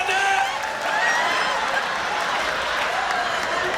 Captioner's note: laughter